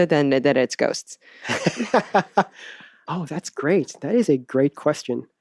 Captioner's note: laughs